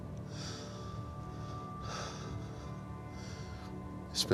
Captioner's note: sighing heavily